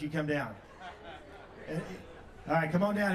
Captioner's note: audience laughs